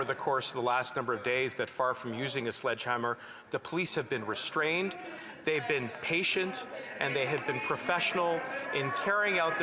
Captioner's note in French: voix de l'interprète